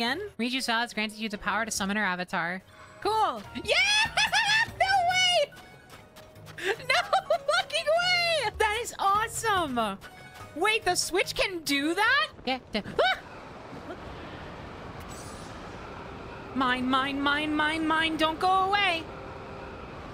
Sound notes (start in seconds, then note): 3.5 cheering; 12.2 singing